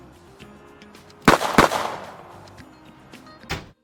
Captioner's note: gunshots